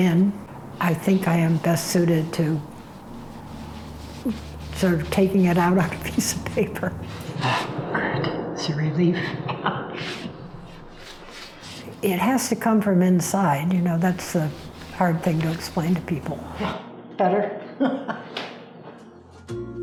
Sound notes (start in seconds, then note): 9.2 chuckles; 17.3 laughs